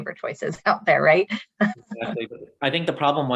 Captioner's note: laughs